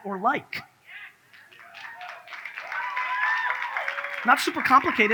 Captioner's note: audience cheers